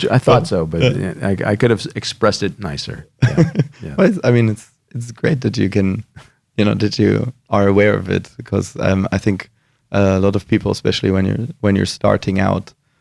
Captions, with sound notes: - I thought so, but I could have expressed it nicer. - (laughs) - Yeah. - It's great that you are aware of it, because I think a lot of people, especially when you're starting out,